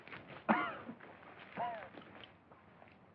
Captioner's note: coughing Continues